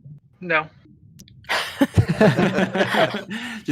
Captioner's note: laughter